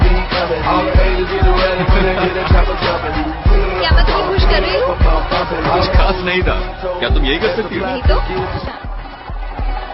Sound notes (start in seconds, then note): 1.4 laughing